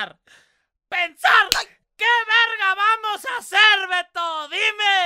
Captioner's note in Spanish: seguido de bofetada